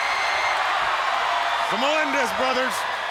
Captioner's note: audience cheering